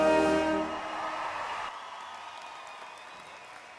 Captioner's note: applause